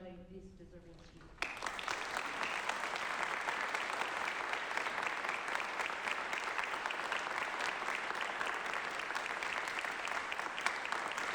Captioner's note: applause